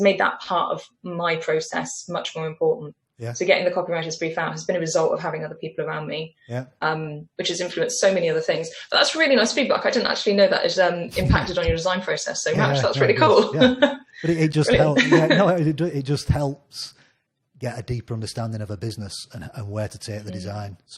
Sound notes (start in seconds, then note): 12.5 chuckles; 15.0 laughs